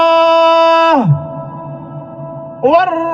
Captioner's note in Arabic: صراخ